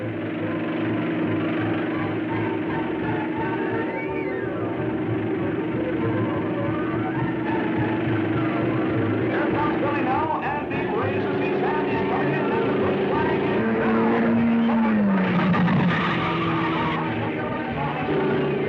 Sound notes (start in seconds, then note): 0.3 car thrumming; 0.3 thrilling music; 11.9 car thrumming; 15.6 car booming